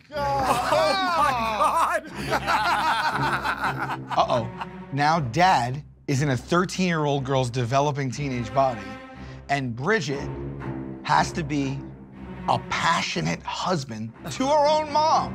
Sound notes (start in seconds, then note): 1.6 Murr and Q laughing